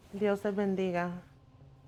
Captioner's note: speaking spanish